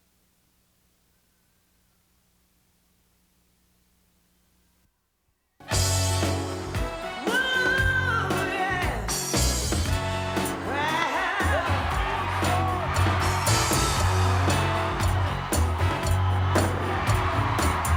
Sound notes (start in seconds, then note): 5.6 upbeat music; 11.9 upbeat music; 13.3 crowd cheering; 14.7 upbeat music